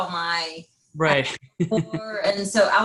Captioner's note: laughs